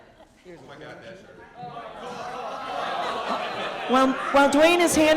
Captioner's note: audience laughing